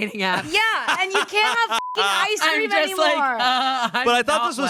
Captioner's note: beep